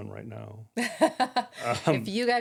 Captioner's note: laughing